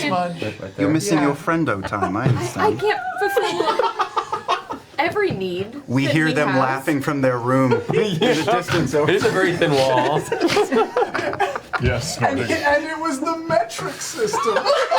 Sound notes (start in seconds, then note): 1.8 all laugh; 7.6 all laugh; 10.2 snorts